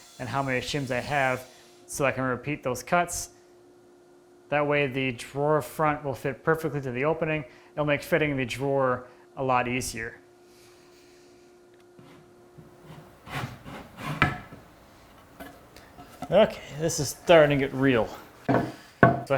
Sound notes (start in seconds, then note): 12.6 wood on wood scraping; 18.4 wood on desk clunking